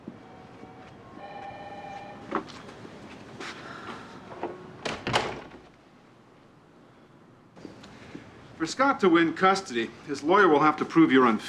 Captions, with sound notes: (TELEPHONE RINGING) (EXHALES) For Scott to win custody, his lawyer will have to prove you're unfit.